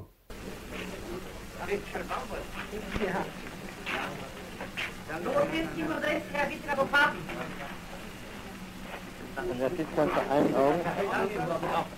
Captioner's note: German speech